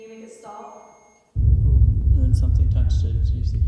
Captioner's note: sustained ringing tone stops